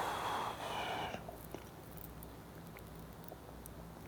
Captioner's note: exhales softly